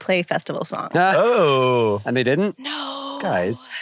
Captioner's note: laughs